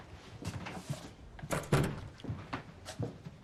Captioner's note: door closes